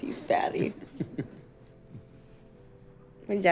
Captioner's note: chuckling